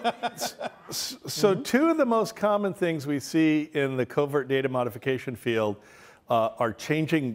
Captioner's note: laughter